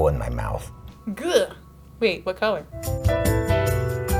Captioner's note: coughs